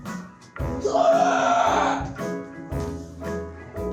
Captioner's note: screams